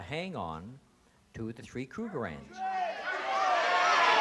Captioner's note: crowd exclaiming